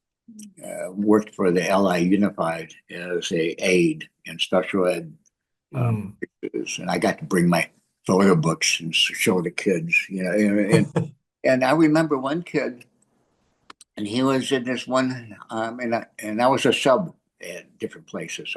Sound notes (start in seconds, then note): 8.1 laughs